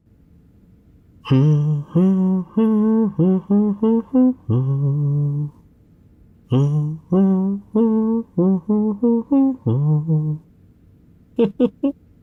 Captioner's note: fugly humming; fugly giggle